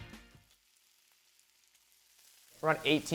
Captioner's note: sizzling